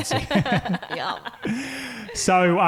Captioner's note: laughing